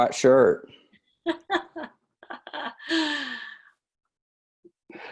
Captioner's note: laughs